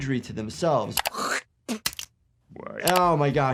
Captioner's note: Homer spits